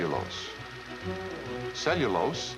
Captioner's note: film reel rattling